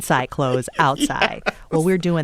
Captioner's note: laughter